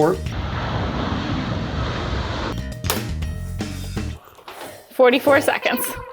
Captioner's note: engines roaring; upbeat music